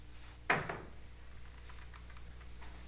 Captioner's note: door opens